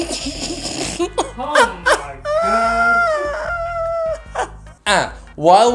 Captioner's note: laughs; exhale-laughs